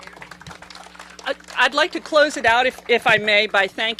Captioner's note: applause